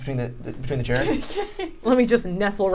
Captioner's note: laughing